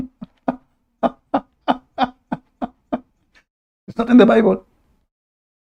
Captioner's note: Ketawa